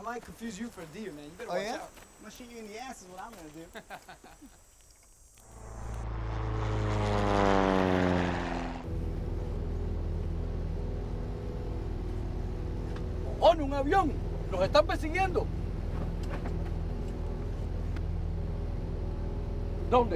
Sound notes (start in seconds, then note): 3.6 chuckling; 5.4 rotors whirring; 13.4 speaking Spanish; 15.9 whirring continues